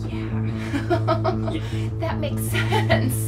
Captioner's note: chuckle